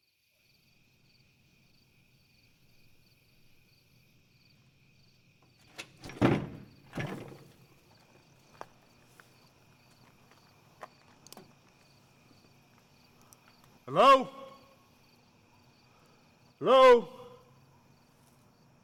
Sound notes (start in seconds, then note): 0.8 crickets chirping; 5.6 A loud clank of the door being forced open